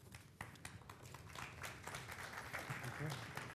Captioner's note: applause